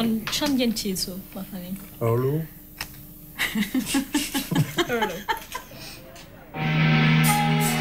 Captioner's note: laughs